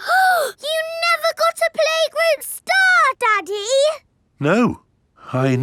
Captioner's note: gasps